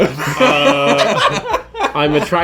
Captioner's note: laughing